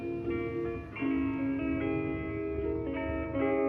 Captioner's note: vehicles rumbling